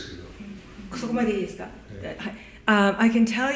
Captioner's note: japanese